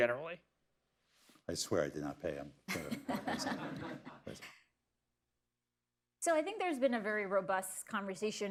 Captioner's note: laughter